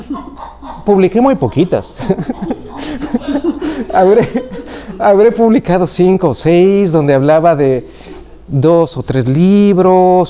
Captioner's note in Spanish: risas